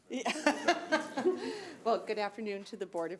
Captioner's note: laughs